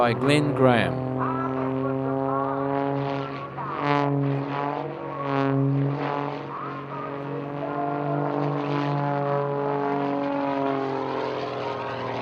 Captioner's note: aircraft sounds